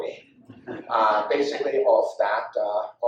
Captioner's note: audience laughs